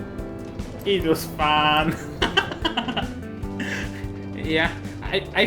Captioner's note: laughs